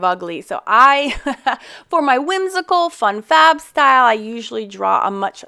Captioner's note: chuckles